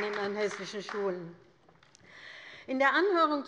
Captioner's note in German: Beifall bei der LINKEN